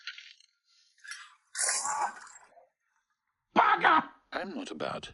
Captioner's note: glass breaks